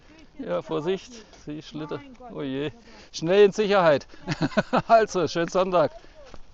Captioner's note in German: Gelächter